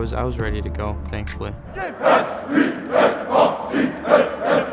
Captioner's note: team chants